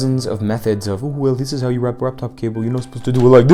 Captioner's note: mocking voice